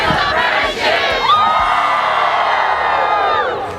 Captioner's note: cheering